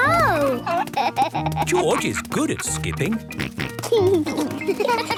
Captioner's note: snort